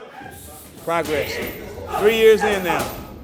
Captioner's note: laughing